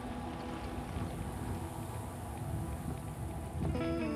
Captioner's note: wind billowing